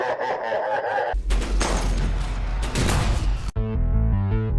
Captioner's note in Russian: смех инопланетного владыки; звуки обычного инцидента с ксеноморфами